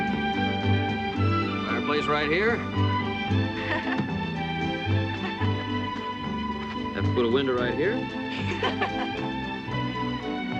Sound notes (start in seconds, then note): 3.6 laughter; 8.3 laughter